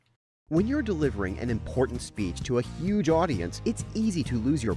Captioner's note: voiceover